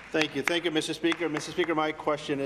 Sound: applause

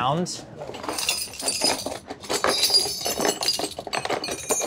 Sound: metal clanking

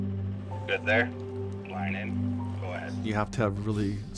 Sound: radio audio

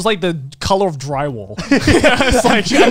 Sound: laughing

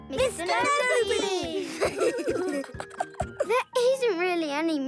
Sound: laughing

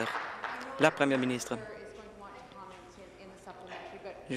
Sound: applause

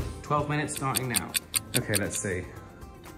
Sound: clock ticks

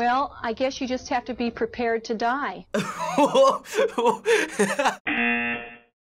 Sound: laughing

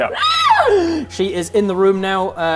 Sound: aaaaaaaaaaah!

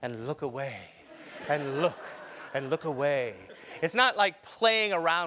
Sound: laugh

